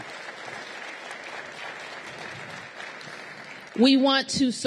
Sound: applause

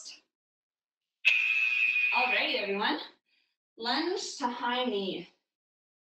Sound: alarm blares

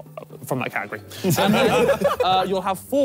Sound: all laughing

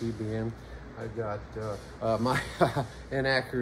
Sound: laughs

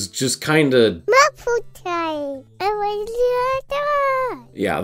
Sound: babbling

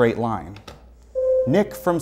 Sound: buzzer sounds

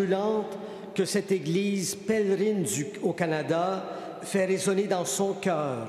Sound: speaking French

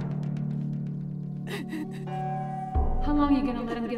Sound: crying

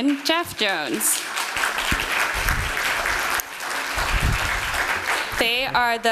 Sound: applause

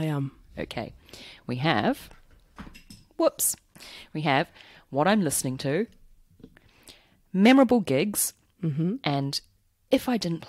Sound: pencil drops

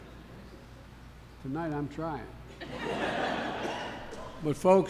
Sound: laughter

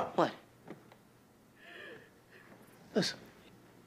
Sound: nina crying

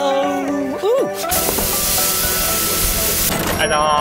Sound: meat sizzles

